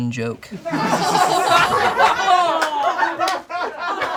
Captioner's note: all laugh